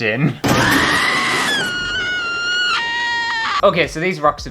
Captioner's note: screaming!!